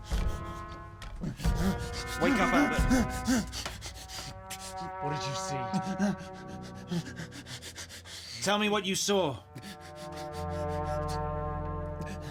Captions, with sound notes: (banging) (fast breathing) - Wake up Albert.